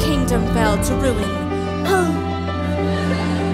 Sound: sigh

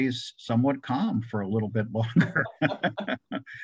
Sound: laughs

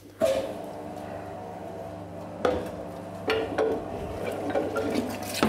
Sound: machine whirring; ground meat splashing

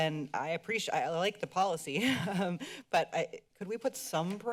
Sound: laughter

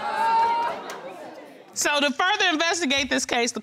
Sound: audience groaning

